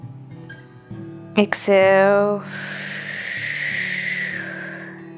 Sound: exhales sharply

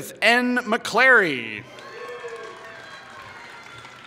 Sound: applause

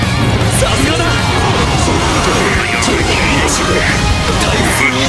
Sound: radio Chatter Custom Dialogue

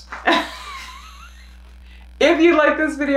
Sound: laughs

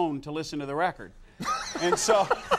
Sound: Conan laughs

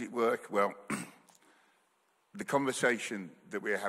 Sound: clears throat

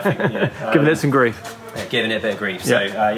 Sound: laughs

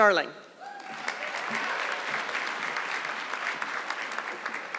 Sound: audience clapping

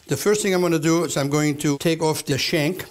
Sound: none

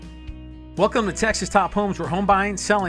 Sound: voiceover

